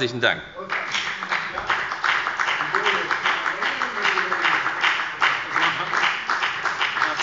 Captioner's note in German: Beifall bei der FDP